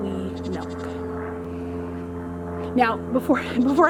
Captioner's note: airplane engine overhead